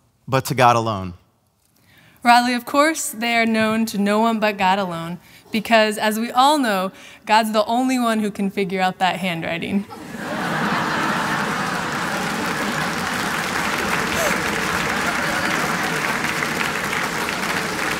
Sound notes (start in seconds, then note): 9.9 laughter; 13.8 applause